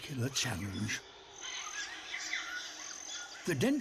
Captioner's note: hooting, chittering